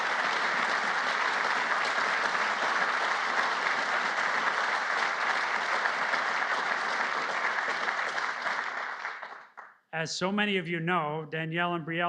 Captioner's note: applause